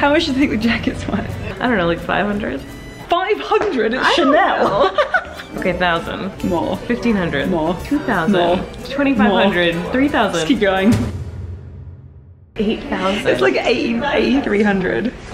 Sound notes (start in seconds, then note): 0.0 laughs; 3.9 laughing; 10.9 booming